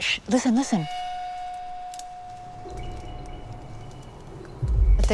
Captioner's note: twigs snapping